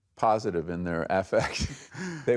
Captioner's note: chuckles